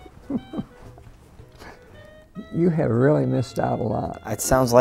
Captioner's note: laughing